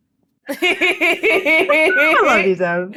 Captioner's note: laughs